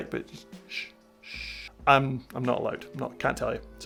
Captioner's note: shushes